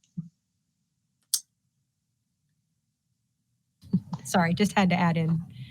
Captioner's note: no audio present